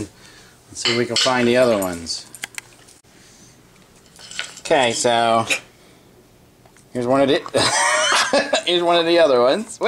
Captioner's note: laughing